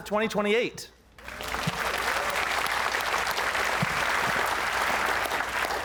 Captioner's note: applause